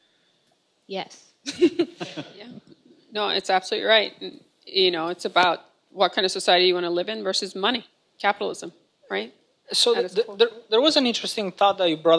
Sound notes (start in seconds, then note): 1.4 laughs